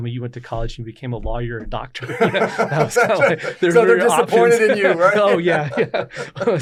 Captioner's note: laughs